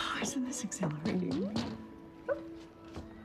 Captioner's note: knocking